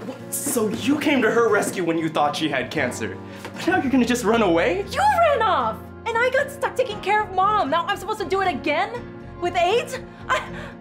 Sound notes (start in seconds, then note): none